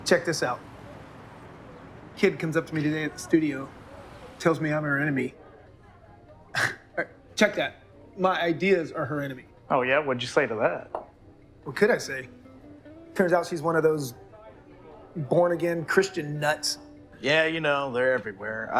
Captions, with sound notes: - Check this out. Kid comes up to me today at the studio, tells me I'm her enemy. (professor scoffs) Check that, my ideas are her enemy. - Oh, yeah? What'd you say to that? - What could I say? Turns out she's one of those born-again Christian nuts. - Yeah, you know, they're everywhere.